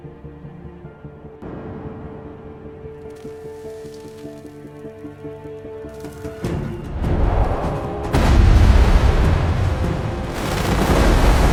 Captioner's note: cannon blast